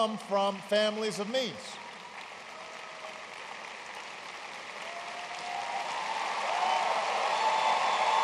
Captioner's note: applause